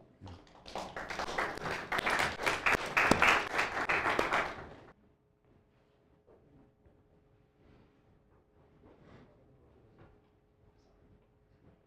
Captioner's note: applause